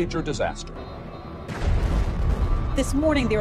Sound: explosion booms

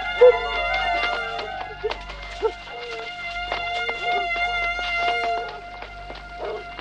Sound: tense dramatic music; dogs barking nearby

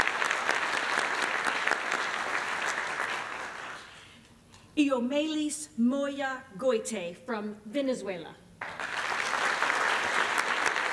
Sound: applause; applause

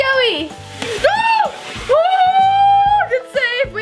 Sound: cries out

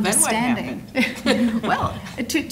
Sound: laughing

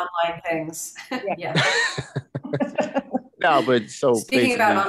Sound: panelists laughing

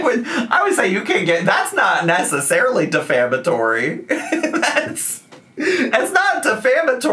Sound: laughs

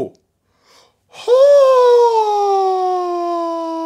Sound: gasping

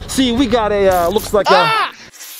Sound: watergun splashing

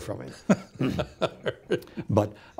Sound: laughs

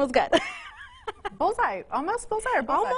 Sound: laughs

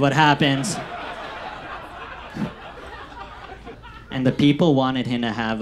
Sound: audience laughs

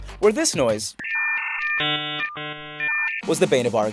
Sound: dial-up tones

